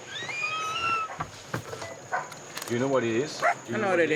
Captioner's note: door squeaking